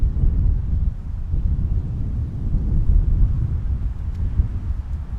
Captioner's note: wind rustling continues